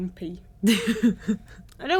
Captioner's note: laughs